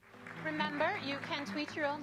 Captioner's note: applauding